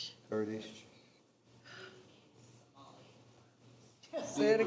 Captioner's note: attendee speaking quietly